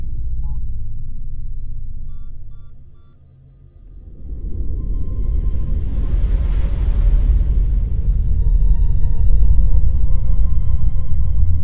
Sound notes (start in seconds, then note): 1.5 machine beeps; 5.6 ominous music